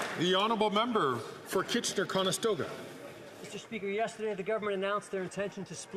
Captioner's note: some Applause